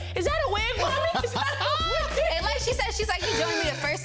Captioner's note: all laughing